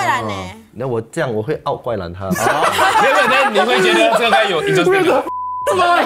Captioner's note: laughs